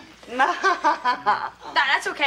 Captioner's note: Noelle laughs